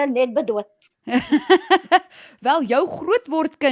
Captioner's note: laughing